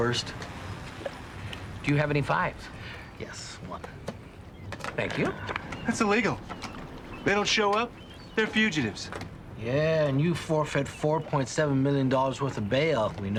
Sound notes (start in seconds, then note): none